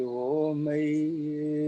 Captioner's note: chanting